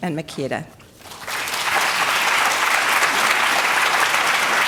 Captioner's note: applause